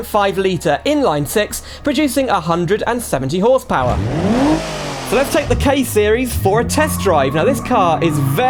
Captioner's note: engine Revs